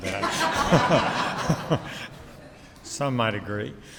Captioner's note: audience laughs